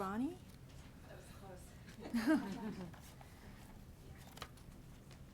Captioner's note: laughs